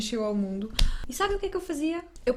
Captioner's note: heavy mouth breathing